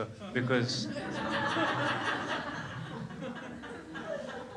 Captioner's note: crows laughs